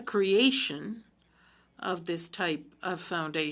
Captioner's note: speaking french